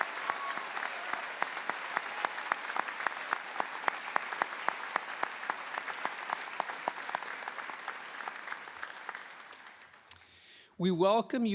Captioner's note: applause